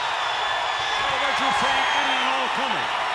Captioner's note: crowd cheering